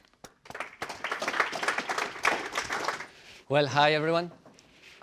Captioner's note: applause